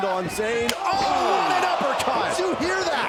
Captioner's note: fist smacks